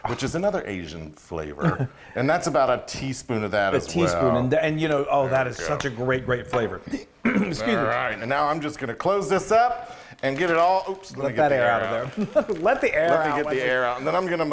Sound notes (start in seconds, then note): 7.2 clearing throat; 11.9 chuckling